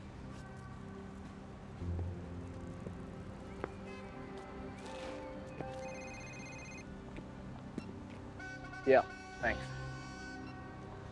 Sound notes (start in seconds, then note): 5.8 phone rings; 8.4 horn blowing